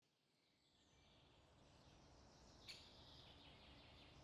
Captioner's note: birds singing